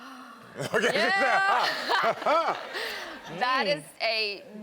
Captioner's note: audience and Karamo laugh